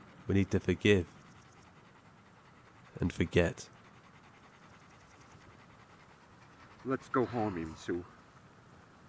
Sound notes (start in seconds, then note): 4.1 Amy heavily panting